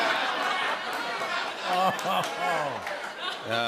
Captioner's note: laughter; chuckling